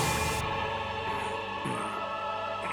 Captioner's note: groans